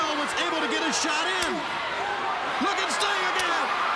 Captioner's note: crowd cheering